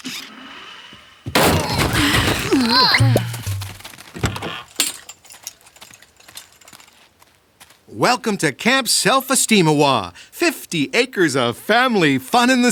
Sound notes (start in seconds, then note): 1.4 all grunting